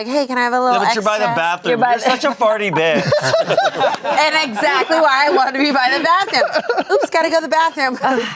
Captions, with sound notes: You're like, "Hey, can I have a little extra?" - But you're by the bathroom. You're such a farty bitch. (everyone laughs) - And exactly why I wanna be by the bathroom. Oops, gotta go to the bathroom.